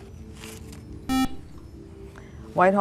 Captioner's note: buzzer